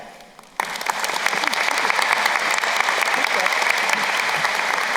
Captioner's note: crowd applauding